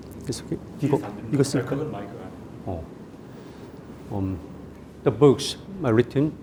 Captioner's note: speaking in Korean